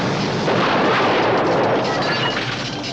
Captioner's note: crash, explosion